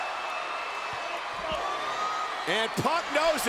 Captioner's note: crowd clamors